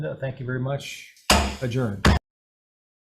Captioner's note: gavel thumping